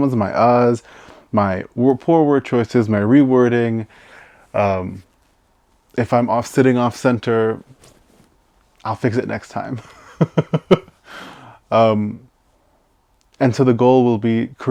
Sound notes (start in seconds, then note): 9.8 laughs